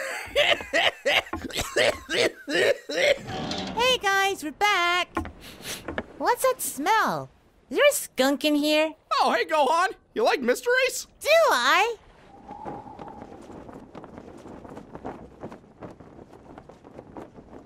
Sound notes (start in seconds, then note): 0.0 laughing, coughing; 5.3 sniffs